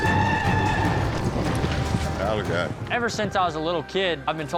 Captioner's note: shouting, hoofbeats